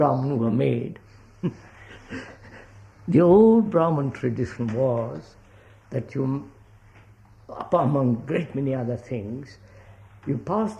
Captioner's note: laughs